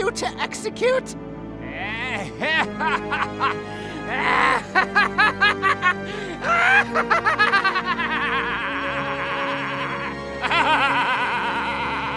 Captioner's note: Gaylord_Steambath laughs maniacally